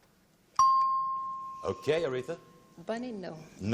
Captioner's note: dings